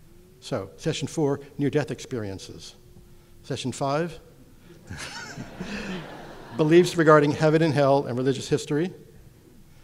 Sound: audience laughter

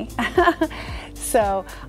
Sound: laughing

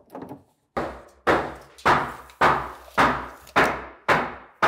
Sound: hammering

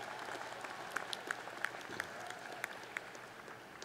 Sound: applause

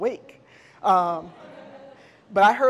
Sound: audience laughs

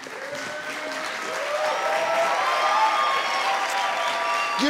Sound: audience cheers

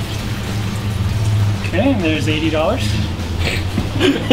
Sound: laughing

